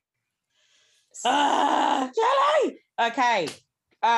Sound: she shouts excitedly

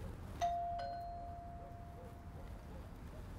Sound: doorbell rings

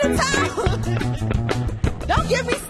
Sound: chuckles

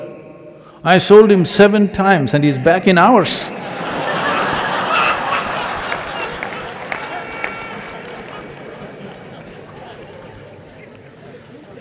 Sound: laughter

